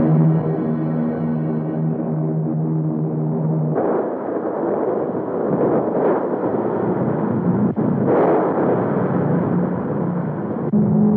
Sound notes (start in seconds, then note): 3.9 explosions booming